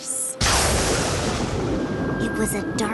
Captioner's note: thunder crashes